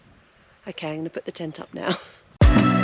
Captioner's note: giggle; trap Music